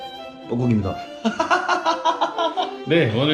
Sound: laughs

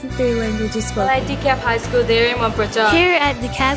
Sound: student speaks foreign language

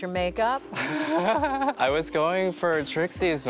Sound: laughs

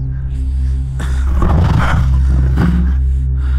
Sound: snarl of the leopard

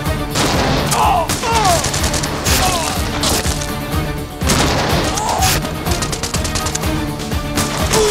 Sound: gunfire continues

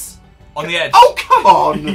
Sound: laughs

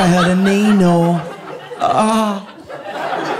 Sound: moans; audience laughing

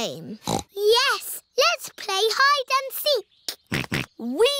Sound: snorts; snorting

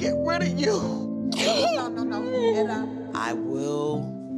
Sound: crying

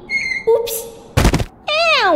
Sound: thud!

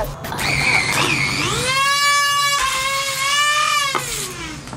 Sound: drilling noise

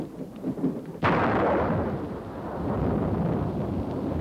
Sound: boom

